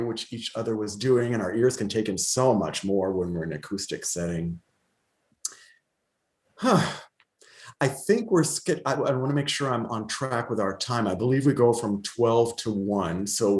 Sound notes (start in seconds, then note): 6.6 sighs